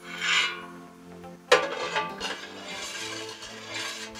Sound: ladle scraping

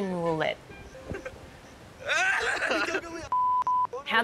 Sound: laughs

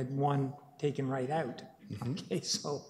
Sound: laughs

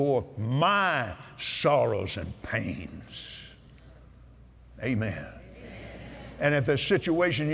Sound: audience "Amens"

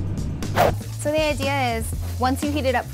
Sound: air whooshing

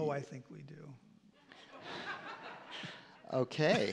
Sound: laughing

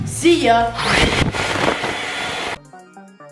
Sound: leaf blower whirs; bright electronic music

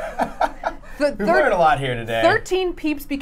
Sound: laughing

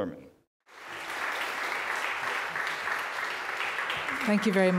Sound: audience applauding

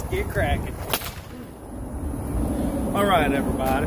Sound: whip cracks

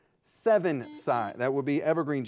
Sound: buzzer beeping

